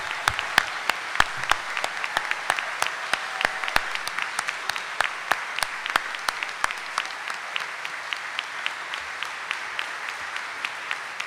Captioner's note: audience cheering and applauding